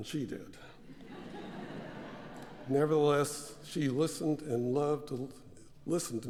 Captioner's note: laugh